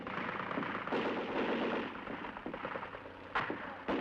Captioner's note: gun fires